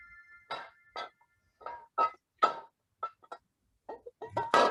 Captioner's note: chime; glass bottles clinking